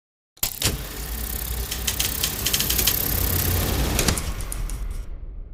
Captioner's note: film reel clicks and whirs